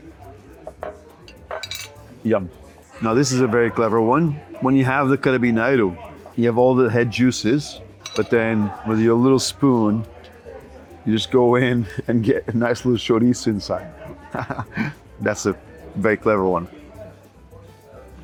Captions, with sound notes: Yum. Now this is a very clever one. When you have the carabineiro, you have all the head juices but then, with your little spoon, you just go in and get a nice little chorizo inside. [chuckles] That's a very clever one.